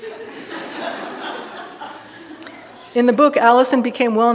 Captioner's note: audience laughing